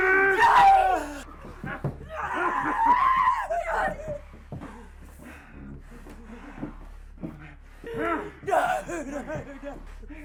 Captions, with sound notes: Johnny! [shrieks] - No, no, no!